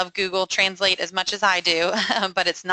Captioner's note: chuckles